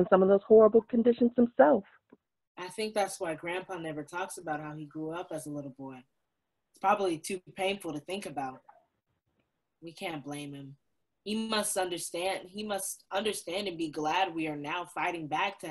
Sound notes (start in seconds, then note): none